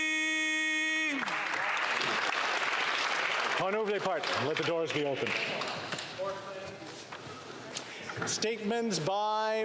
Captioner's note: applause